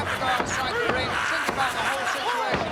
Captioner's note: laughs